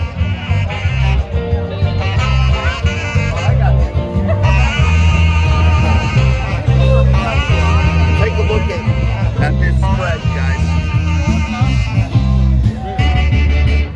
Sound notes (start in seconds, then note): 4.4 laughs